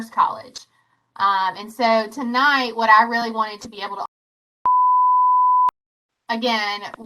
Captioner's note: beeps